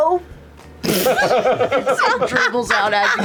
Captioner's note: laughter